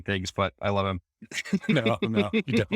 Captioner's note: laughing